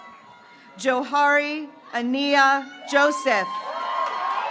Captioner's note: graduates cheering